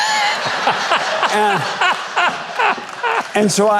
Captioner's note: crowd laughing